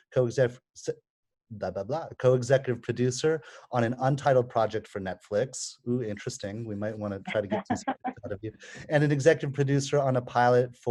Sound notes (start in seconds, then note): 7.2 chuckling